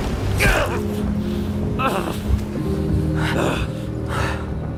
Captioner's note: groaning